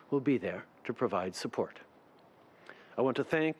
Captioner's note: speaking french